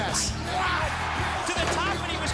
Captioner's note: crowd cheering